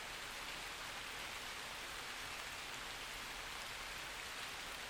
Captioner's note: rain splashing